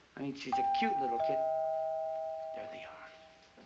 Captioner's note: doorbell ringing